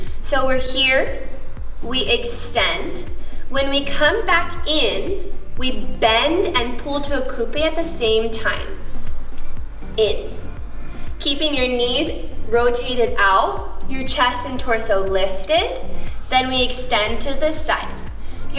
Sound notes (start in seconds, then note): none